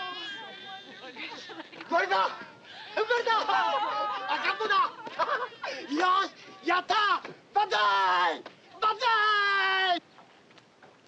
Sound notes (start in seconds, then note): 1.6 shouting in Japanese